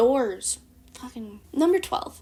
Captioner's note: muttered